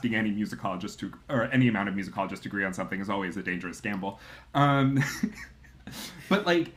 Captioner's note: laughs